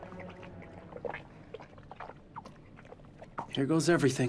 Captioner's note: blood lapping